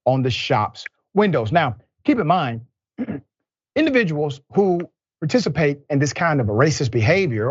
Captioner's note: cough